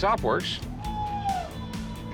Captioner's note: machinery whirring